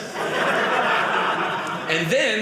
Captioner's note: audience laughing